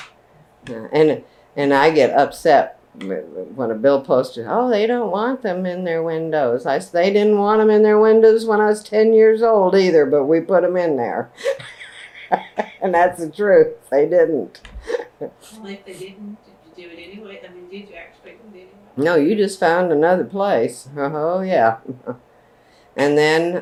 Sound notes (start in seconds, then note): 11.4 laughs